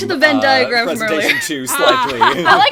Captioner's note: laughs